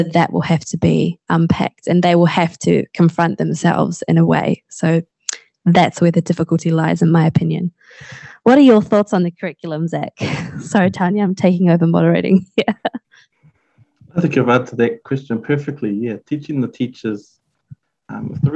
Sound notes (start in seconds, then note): 10.2 chuckling